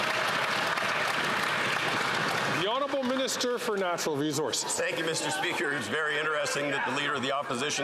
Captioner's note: some Applause